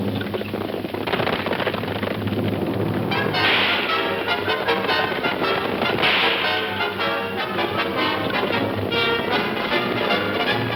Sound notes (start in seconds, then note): 0.1 horse hooves clomping; 3.0 suspenseful orchestral music; 3.1 guns firing